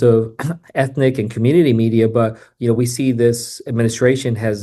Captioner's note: clears throat